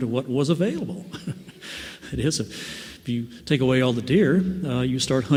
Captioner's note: laughs